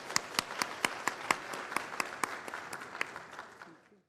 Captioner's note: applause